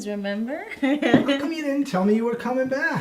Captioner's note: chuckles